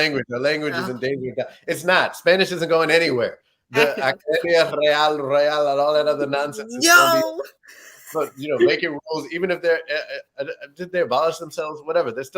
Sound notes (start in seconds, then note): 3.6 speaking Spanish